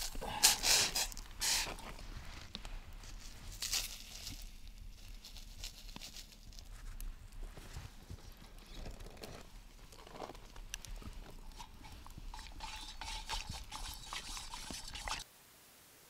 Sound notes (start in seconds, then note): none